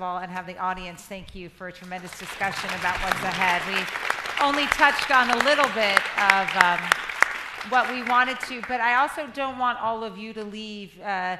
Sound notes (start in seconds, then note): 3.7 crowd applauding